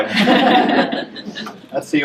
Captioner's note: laughter